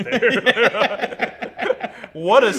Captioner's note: laughs